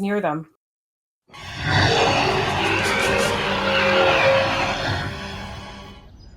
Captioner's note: beast phasing